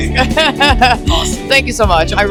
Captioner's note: laughs